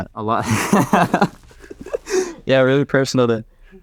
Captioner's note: laughs